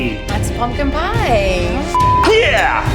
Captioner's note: beep